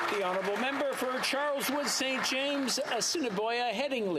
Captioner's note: some Applause